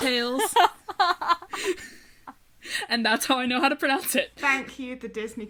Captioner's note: hosts laugh